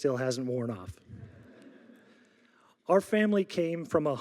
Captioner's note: audience laughing